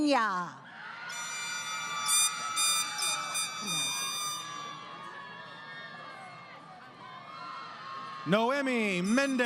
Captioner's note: crowd Cheering